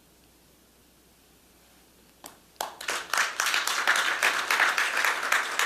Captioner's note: applause